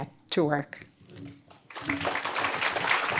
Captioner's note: applause